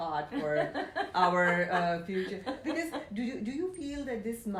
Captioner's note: laughs